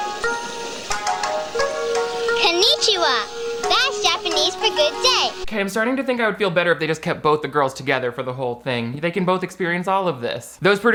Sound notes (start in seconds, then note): 0.0 traditional Japanese music; 1.1 speaks in Japanese